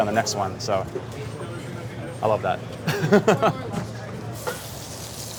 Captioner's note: laughs